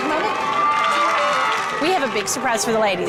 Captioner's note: everyone cheering